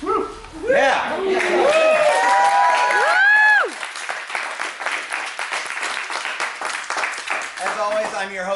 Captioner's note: applause